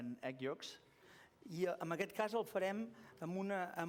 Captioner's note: non-english speech